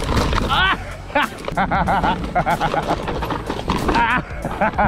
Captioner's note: laughs